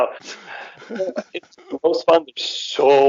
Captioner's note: both chuckle